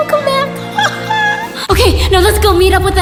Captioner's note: laughing